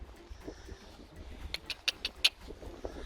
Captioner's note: click, click, click, click, click